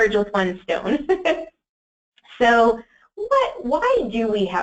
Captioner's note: laughs